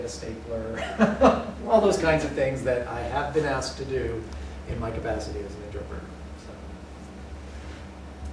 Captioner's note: laughter